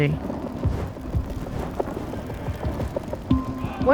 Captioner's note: fire sizzling